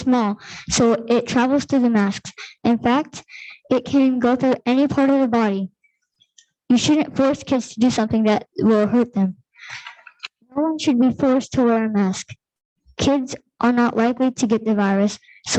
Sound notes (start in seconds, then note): none